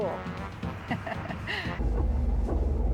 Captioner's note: laughs